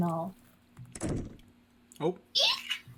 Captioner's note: door opens